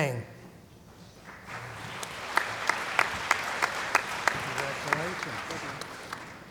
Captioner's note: applause